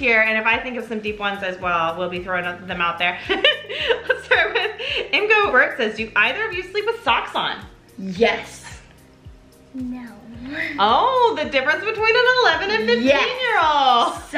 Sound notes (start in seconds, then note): 3.4 laughs